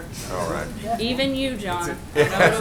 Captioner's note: laughter